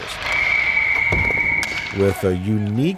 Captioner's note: whistle blows